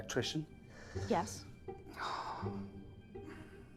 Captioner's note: Tom sighing